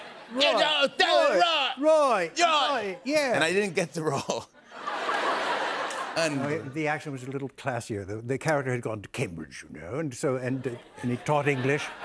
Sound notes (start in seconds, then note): 3.3 normal voice; 4.0 laughter; 6.2 normal voice; 8.1 posh British accent